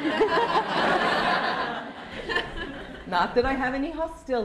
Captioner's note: laughter